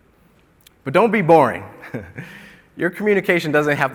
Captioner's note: chuckles